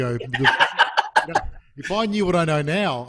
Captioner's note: chuckles; laughing loudly